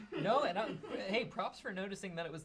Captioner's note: laughs